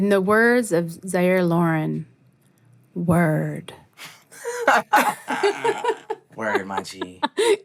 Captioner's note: laughter